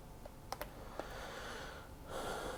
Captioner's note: sighs